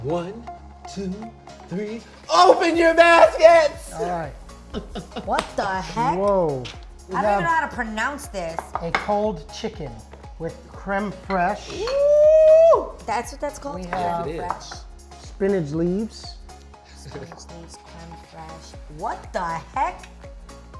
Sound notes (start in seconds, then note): 4.6 laughing